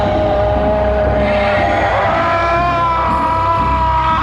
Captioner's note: men yelling, groaning